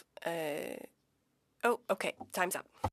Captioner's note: speaking French